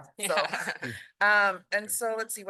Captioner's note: laughter